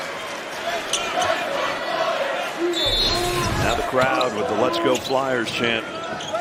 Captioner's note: whistle